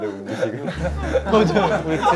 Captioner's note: broke into tears